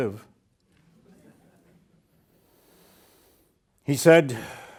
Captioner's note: students laughing